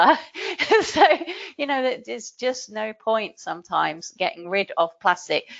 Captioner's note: laughing